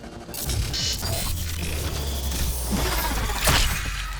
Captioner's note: machine whirring